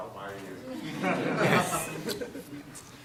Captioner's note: laughter